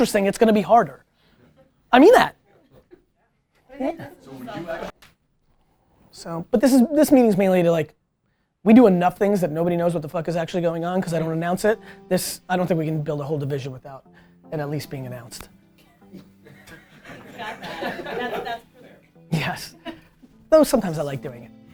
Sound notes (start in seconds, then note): 16.1 group laughter